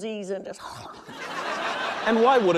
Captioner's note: laughter